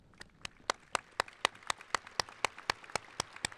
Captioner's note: applauding